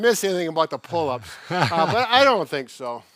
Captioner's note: laughs